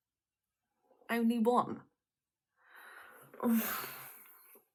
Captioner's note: sigh